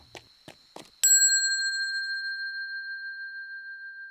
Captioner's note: bell ringing